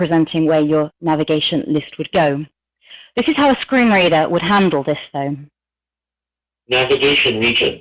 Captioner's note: computer talking